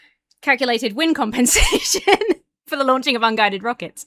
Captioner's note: laughs